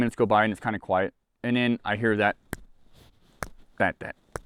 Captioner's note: thumping fists